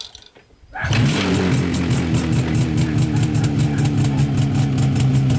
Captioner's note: Loud sound of USSR motorcycle